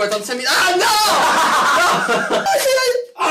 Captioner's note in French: rires